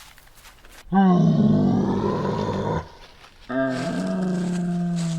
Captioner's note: creature roaring